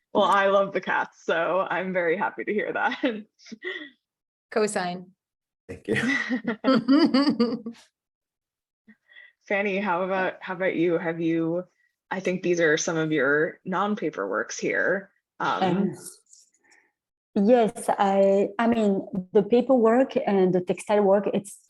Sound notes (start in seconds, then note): 5.9 giggling